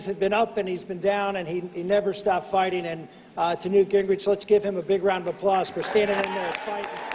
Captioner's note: applause